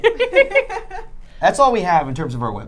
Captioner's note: laughing